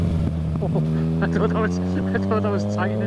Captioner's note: laughing